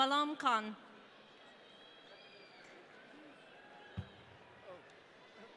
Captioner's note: audience cheering